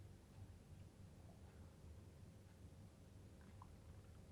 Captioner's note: none